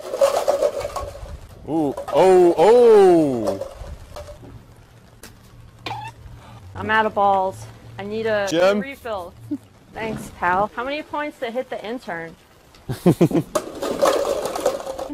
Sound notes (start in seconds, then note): 5.8 doink